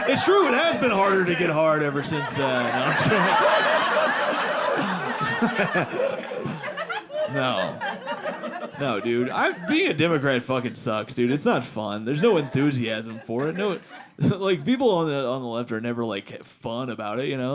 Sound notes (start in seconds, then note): 2.8 audience laughing